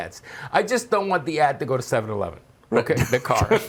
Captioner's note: laughter